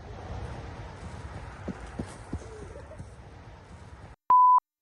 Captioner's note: wind blowing; feet thudding